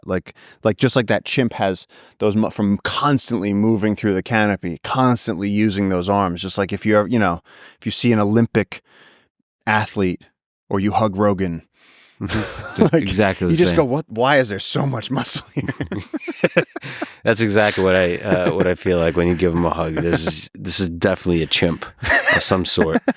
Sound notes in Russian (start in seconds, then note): 15.3 Пол и Лекс смеются